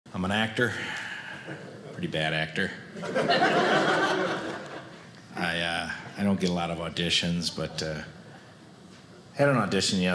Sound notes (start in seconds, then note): 2.9 audience laughing